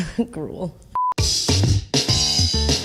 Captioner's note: beep; upbeat music